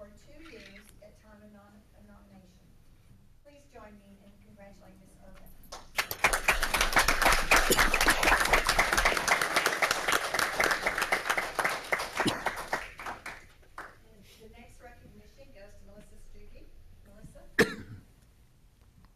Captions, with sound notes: for two years, at time of nomination. Please join me in congratulating Ms. Urbick. (audience applauds) The next recognition goes to Melissa Stuive, Melissa.